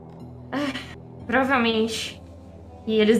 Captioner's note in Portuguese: suspira